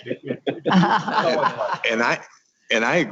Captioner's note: laughing